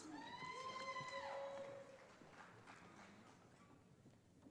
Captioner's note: audience applauding